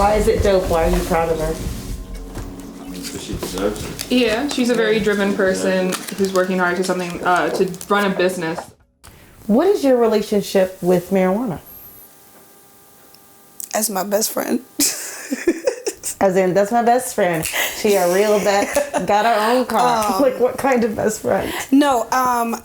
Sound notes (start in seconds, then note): 14.8 laughs; 17.4 snaps; 20.3 laughs